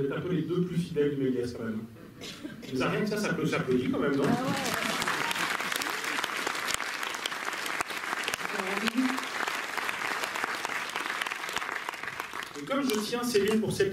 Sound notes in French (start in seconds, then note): 4.1 Applaudissements